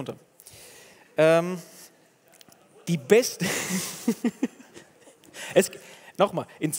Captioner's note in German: Gelächter